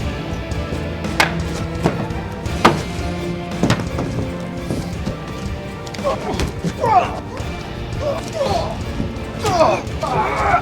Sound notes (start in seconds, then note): 0.9 bat clacks; 5.8 grunts and groans